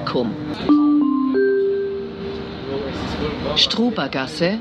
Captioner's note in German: Gong